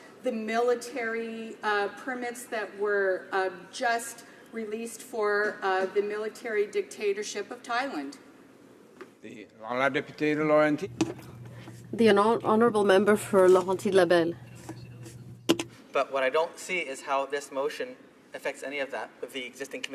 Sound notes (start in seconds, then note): 14.4 speaking French